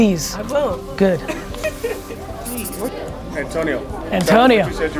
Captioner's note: laughs